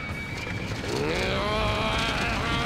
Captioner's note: growling